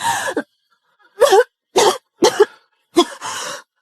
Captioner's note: coughing